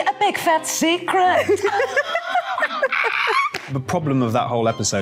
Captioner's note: both laughing